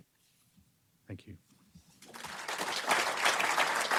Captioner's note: applause